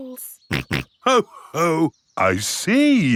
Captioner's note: snorts